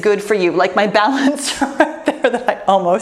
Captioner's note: laughs